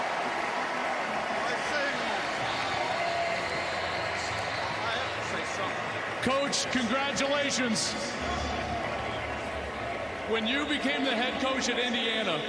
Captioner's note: cheers and applause